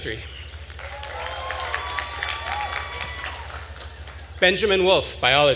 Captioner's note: attendees cheering and applauding